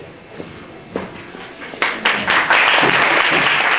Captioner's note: applause